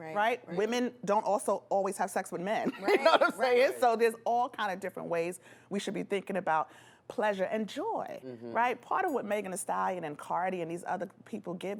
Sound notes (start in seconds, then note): 2.9 laughs